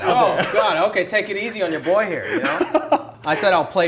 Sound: laughter

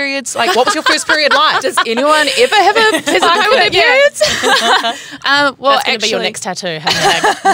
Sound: laughter

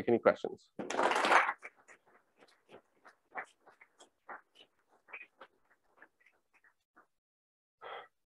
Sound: applause

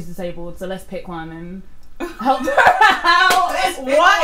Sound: laugh

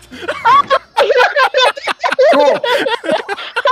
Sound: laughing

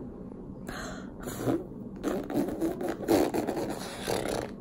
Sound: blowing

